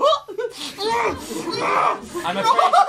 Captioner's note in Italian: grugnisce